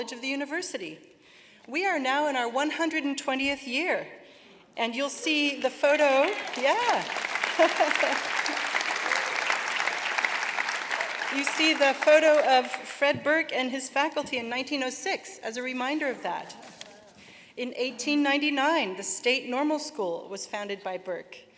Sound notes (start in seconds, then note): 8.0 applause